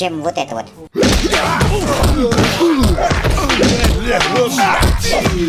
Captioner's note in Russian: шум махача